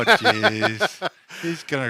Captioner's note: laughs